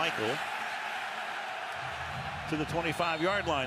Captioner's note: cheering